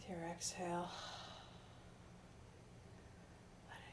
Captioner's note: sighing